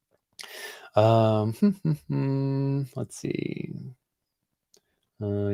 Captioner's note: hums